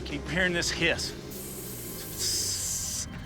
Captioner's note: hisses